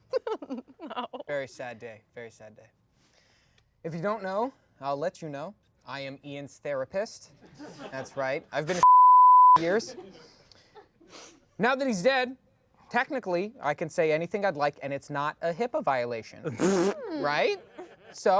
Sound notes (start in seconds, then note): 0.0 laughs; 8.8 beep